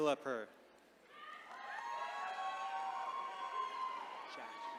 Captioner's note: attendees cheering